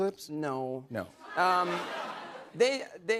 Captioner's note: laughter